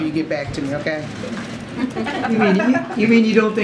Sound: laughter

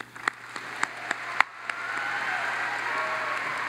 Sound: audience applauds

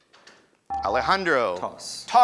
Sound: ding

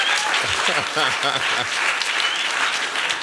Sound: laughs

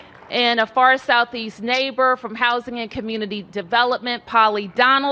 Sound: applause

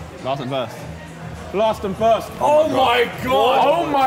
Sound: none

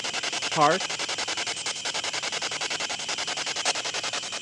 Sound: static pulsing

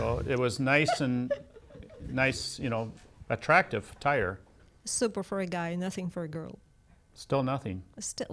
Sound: laughs

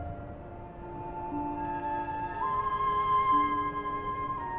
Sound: phone ringing

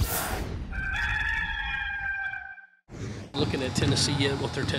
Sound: whooshing; rooster crowing

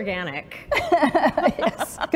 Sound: laughter

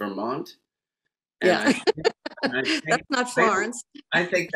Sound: laughs

